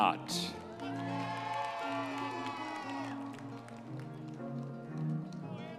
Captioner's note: audience members cheering